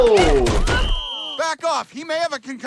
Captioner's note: Stewie grunting; whistle blowing